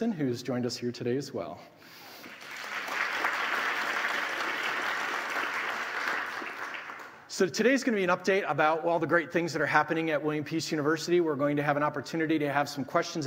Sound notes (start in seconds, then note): 2.2 audience applauding